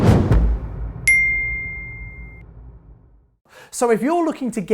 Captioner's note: whooshing sound; beep